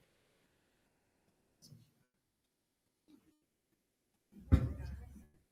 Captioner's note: staff speaking faintly